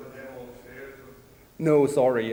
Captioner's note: male's voice is muffled